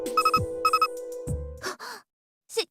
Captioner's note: gasp